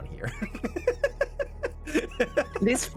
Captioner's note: laughter